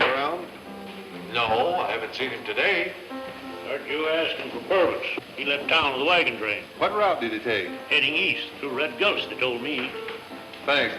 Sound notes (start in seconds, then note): none